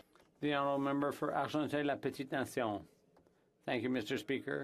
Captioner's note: speaking French